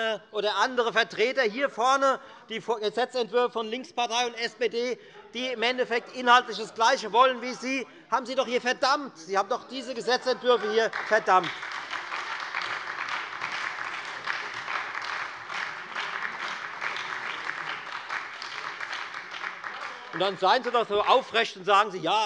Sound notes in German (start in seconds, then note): 11.7 Lebhafter Beifall bei der FDP, der SPD und der LINKEN